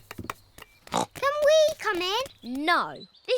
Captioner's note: snorts